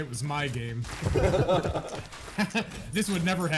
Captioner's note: players laughing